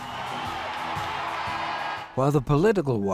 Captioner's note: cheering crowd